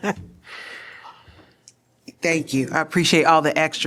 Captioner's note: laughter